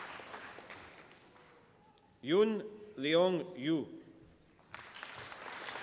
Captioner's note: applause